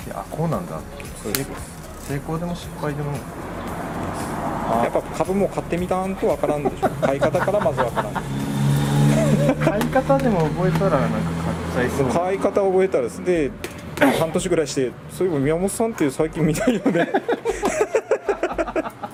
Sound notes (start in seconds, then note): 6.3 laughs